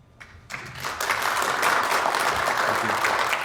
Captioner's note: audience applauds